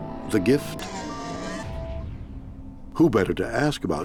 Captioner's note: eerie discordant sound echoes